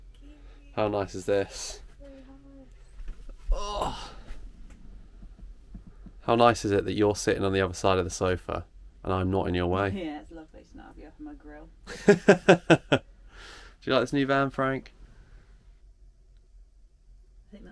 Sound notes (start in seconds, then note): 11.8 laughter